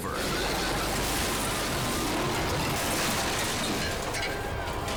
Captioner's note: cars crashing; suspenseful music